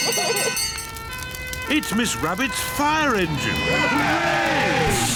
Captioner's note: children giggling; siren blares; all cheer